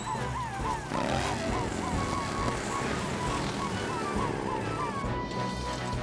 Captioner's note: heroic Music; sirens Blaring